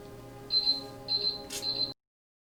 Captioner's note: beeping